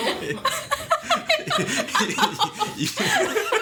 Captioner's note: laughing